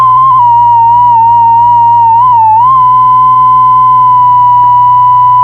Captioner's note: buzzing feedback